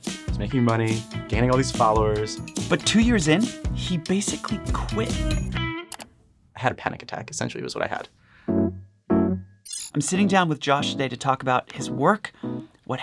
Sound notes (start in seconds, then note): 5.9 electronic clicking; 10.0 chill music